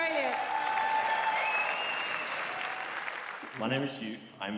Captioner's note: cheering